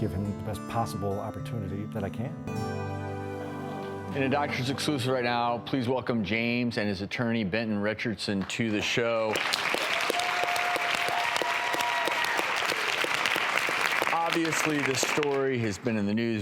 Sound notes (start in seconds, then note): 8.4 applause